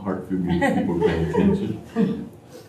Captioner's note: laughter